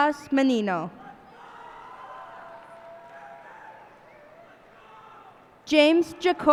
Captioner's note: cheers and applause